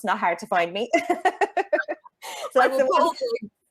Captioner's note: chuckles